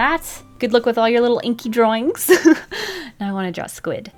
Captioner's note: laughs